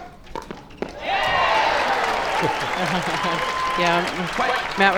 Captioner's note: crowd applauds